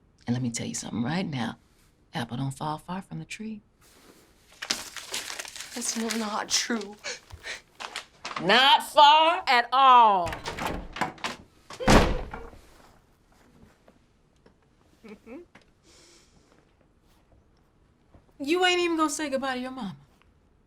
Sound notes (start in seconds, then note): 11.7 door slams; 12.0 Betty chuckles